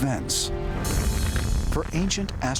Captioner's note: explosion